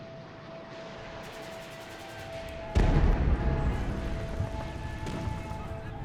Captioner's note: soldiers yelling; artillery firing